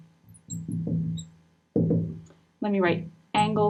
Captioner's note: marker scratching